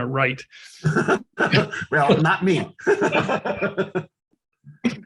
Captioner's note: laughs